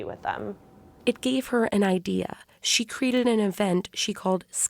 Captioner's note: voice-over